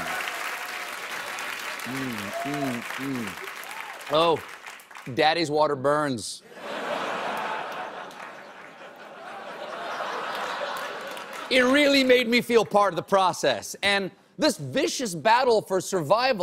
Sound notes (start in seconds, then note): 0.0 cheers and applause; 3.8 laughter